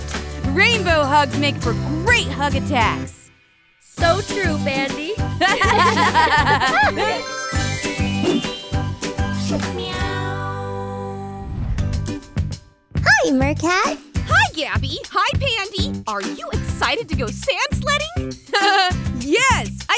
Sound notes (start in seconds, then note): 5.4 laughter